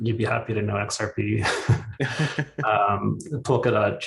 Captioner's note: both laughing